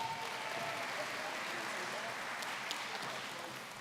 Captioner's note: applause